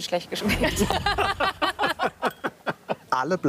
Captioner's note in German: Lachen